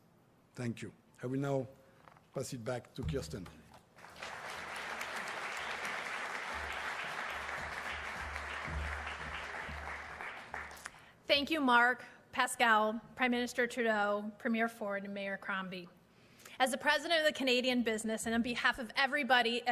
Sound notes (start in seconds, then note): 3.8 applause